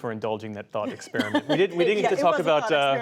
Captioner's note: laughter